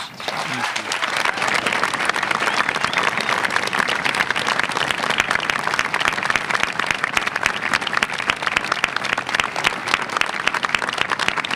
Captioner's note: applause